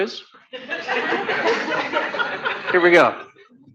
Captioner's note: laughter